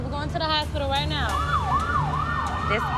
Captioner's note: alarm blaring